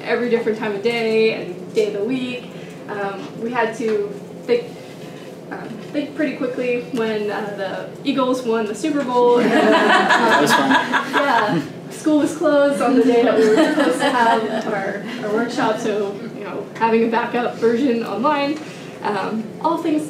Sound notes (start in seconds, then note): 9.3 laughter